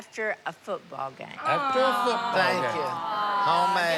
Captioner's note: awwing